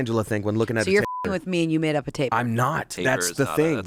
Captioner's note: beep